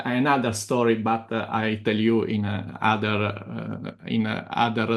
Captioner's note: laughs